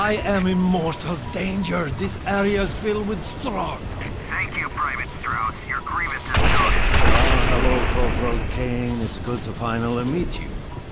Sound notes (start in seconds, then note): 0.0 VOSS over the radio; 4.2 VOSS over the radio